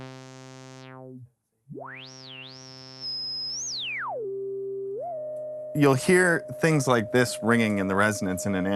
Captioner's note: wave tone; whistle tone